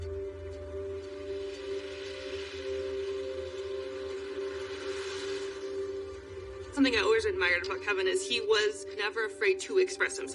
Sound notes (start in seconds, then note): 2.3 tense music; 4.1 cars whooshining